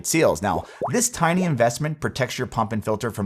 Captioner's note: graphics popping